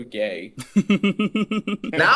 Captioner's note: chuckling